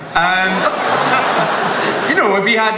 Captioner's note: everyone laughs